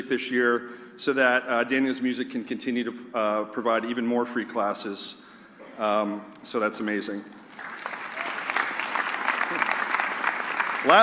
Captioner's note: applause